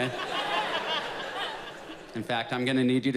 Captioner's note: audience laughs